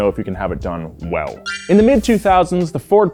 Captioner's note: sparkle